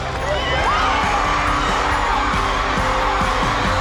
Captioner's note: cheering